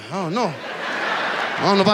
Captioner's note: audience laughs